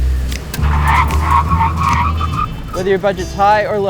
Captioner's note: tires screeching